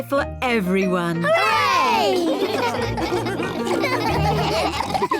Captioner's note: all laugh